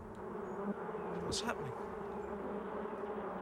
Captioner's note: buzzing